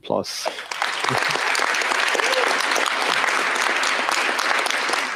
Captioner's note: applause